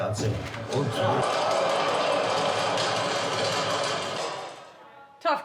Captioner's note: cheering and applause